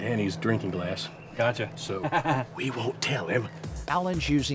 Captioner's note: chuckles